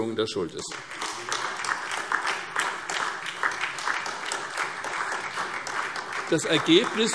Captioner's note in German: Beifall SPD und DIE LINKE